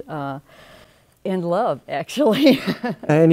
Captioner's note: laughs